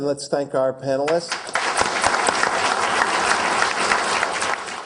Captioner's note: applause